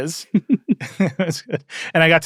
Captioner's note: laugh